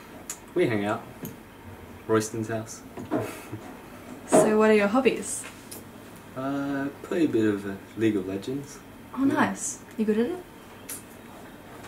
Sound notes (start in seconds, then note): 3.2 chuckles